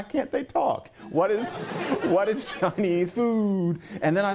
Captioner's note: laughter